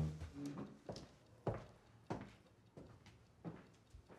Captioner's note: footsteps clack